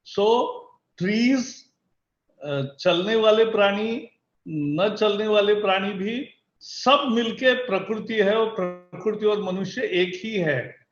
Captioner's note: speaks in Hindi – not transcribed